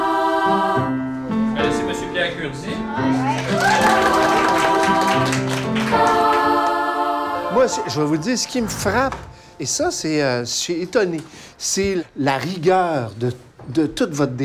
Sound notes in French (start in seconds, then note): 3.1 acclamations; 5.0 applaudissements